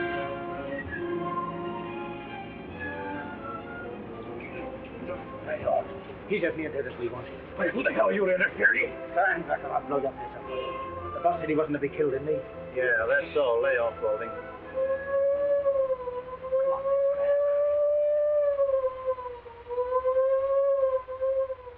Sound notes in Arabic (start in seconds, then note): 0.2 موسيقى مشوقة; 14.4 صفارة الإنذار تدوي في مكان قريب; 17.9 صفارة الإنذار تصرخ